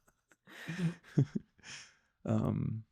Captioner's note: laughing